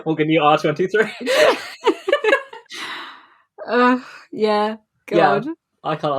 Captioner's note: laughing; laughs